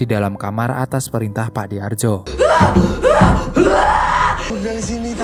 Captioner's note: shouting